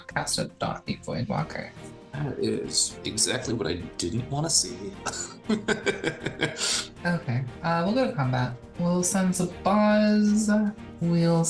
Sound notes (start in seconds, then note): 5.0 chuckling